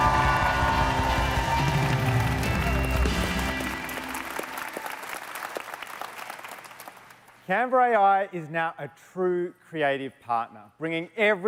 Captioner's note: cheers and Applause